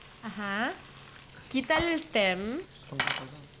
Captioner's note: speaking Spanish